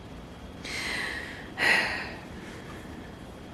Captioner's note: heavy sigh